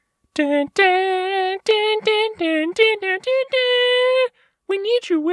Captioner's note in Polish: więcej nucenia